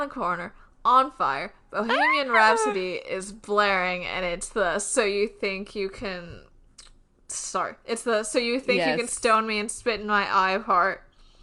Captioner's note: screams